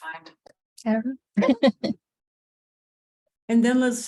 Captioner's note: laughs